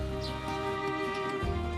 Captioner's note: birds chirping